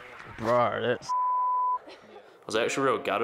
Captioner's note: beep